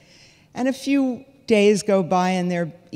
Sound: none

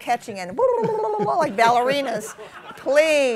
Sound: laughter

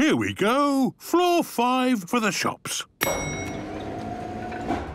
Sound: elevator dinging

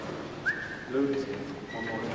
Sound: whistle

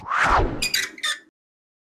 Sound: sign squeaks

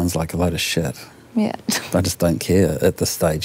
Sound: chuckles

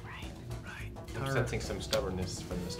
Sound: whispering

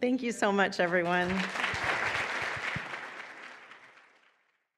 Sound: applause

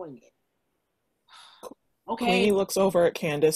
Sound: sighs

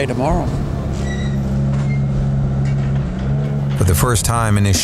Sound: engine purring

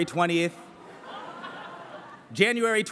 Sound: laughter

